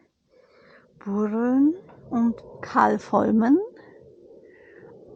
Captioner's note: airplane sounds